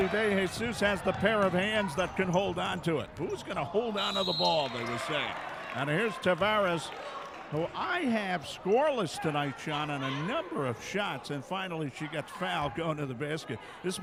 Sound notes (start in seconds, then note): 4.0 referee whistling